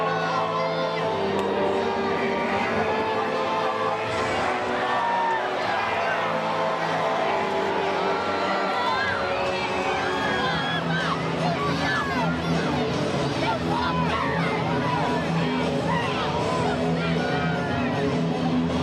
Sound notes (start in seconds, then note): 3.8 crowd chattering; 3.8 dramatic music continues